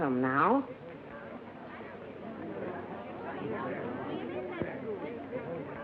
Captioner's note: chatter